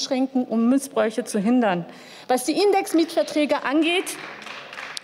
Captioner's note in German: Beifall